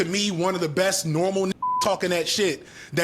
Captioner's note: beep